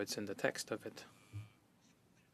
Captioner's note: speaking in French